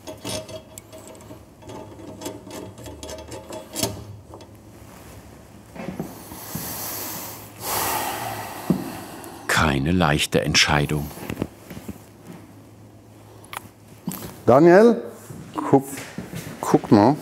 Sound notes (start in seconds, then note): 7.6 sigh